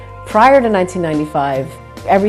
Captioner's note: none